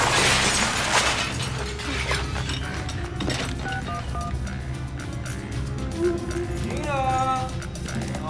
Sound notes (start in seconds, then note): 0.0 glass shattering; 2.4 gasps; 3.0 dialing